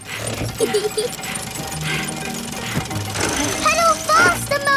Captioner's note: mummy pig panting; peppa laughing